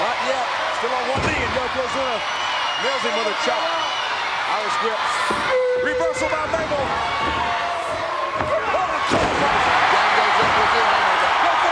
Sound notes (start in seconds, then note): 9.1 Yokozuna thudding; 10.9 crowd cheering